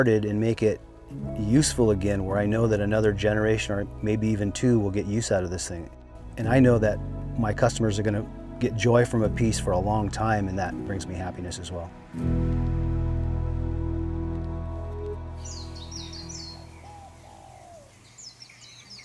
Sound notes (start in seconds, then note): 14.6 birds chirping